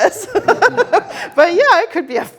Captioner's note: all laughing